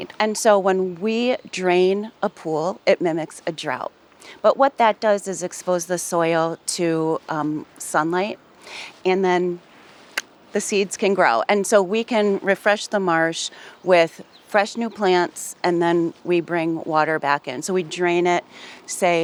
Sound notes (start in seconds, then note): none